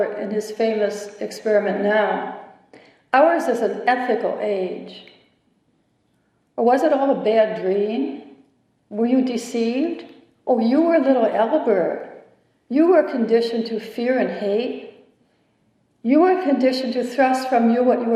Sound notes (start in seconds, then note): none